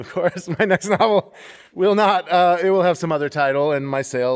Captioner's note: laughter